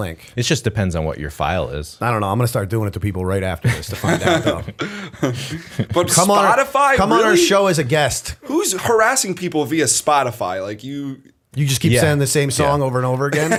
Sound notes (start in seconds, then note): 5.4 laughter